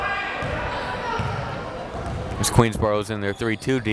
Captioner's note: crowd members shouting